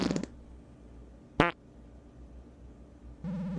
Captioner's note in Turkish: Osuruk sesleri